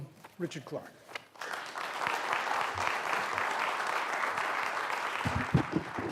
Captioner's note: applause